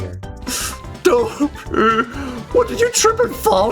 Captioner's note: wheeze